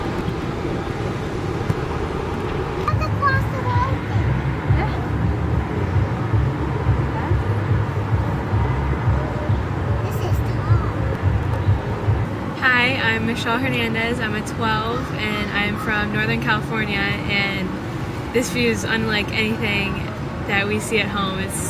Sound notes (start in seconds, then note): 2.8 child talking; 10.2 voiceover